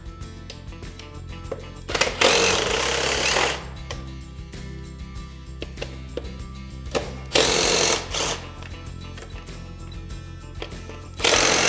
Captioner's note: drill whirring